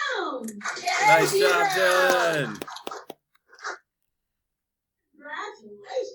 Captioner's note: clapping